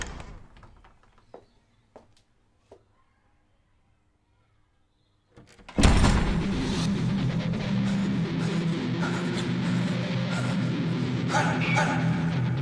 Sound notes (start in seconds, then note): 0.0 door opening; 5.4 door closing; 8.2 upbeat suspenseful music; 9.7 hard breathing